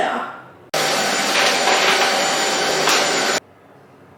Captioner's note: vacuum surges